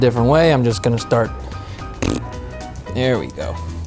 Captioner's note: blowing a raspberry